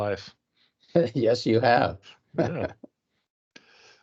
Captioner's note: laughing